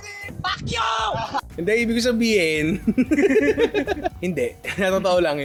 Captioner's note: laughter